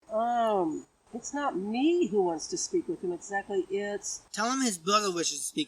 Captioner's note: on phone